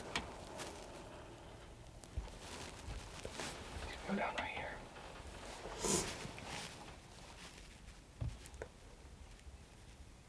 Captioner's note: whispering